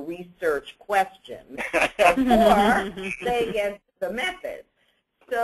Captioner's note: laugh